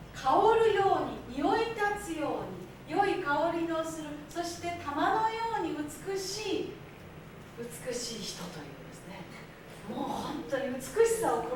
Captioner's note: speaking Japanes